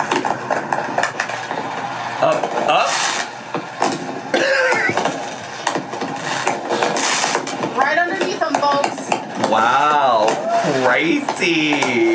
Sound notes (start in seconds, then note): 4.4 laughs